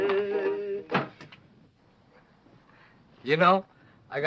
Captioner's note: window slams